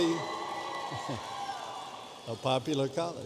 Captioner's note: audience cheering